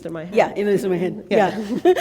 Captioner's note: laughter